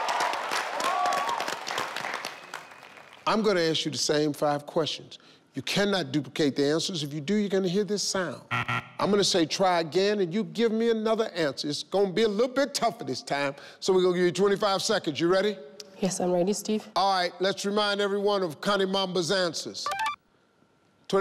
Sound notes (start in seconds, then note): 0.0 crowd cheers; 8.5 buzzing